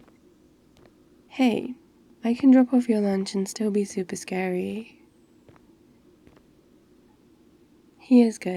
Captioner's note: footsteps stop